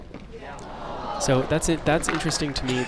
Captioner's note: crowd groans